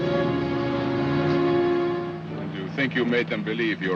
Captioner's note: suspenseful music; car rumbles away